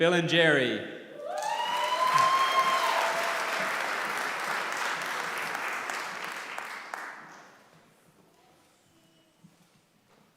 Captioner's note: applause